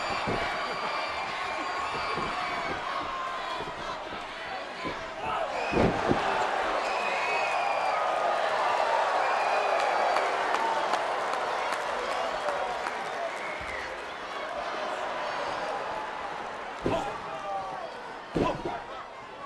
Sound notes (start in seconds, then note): 0.3 crowd cheering; 6.3 body thuds; 8.3 crowd applauds